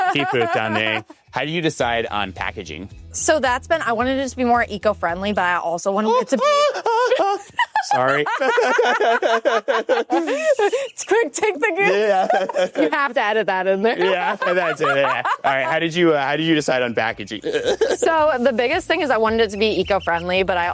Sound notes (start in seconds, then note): 0.0 laughs; 5.9 both laughs; 12.5 laughs